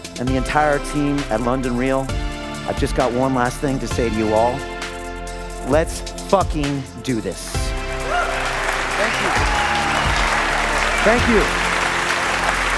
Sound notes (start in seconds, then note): 7.5 group applauding